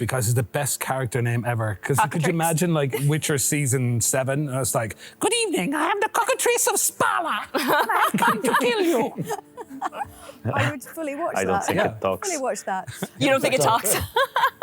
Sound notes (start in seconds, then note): 4.9 cartoony voice